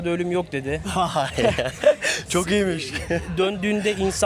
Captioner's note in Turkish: kahkaha